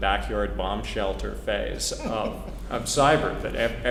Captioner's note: laugh